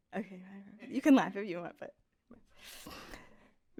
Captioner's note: none